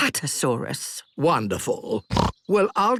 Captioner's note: snorts